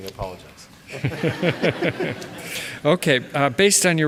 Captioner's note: laughter